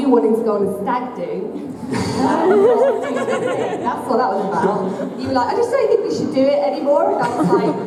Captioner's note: laughter